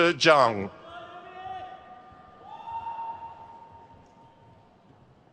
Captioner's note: crowd cheers